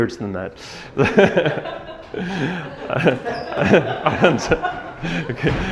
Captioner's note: audience laughing